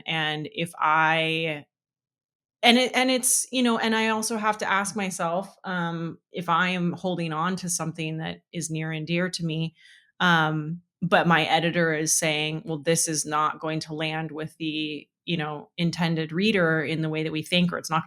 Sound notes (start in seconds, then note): none